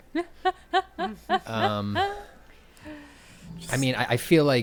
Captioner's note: laughing